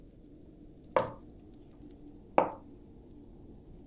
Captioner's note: wind and fire sounds; knock